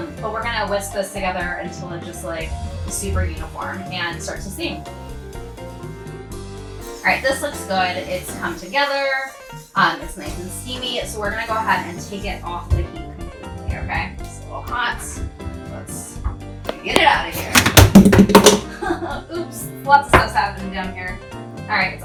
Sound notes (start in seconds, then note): 17.6 thud